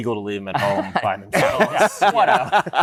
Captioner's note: laughter